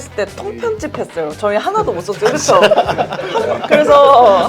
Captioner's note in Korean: 웃음